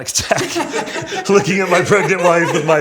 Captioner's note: laughs